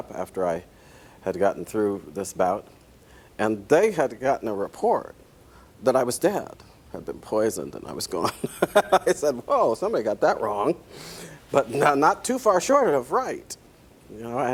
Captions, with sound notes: had gotten through this bout, and they had gotten a report that I was dead. I had been poisoned and was gone. (laughs) I said, well, someone got that wrong. But not too far short of right.